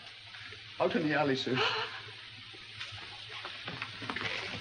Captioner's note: woman gasps